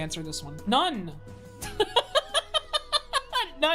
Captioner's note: laughs